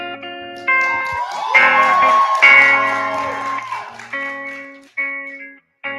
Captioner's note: cheering